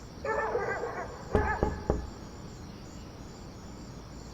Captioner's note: soft knocking